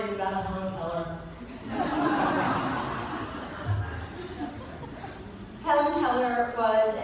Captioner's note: laughter